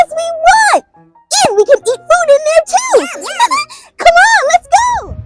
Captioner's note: laughs